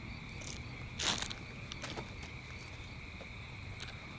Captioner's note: bag rustles